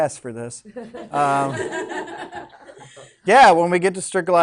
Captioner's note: students laughing